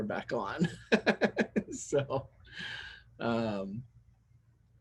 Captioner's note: laugh